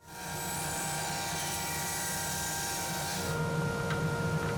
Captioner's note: saw buzzing